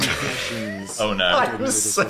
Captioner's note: laughs